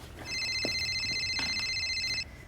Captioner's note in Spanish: sonido de llamada a un móvil